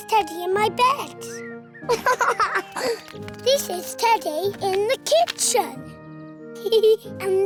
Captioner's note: giggles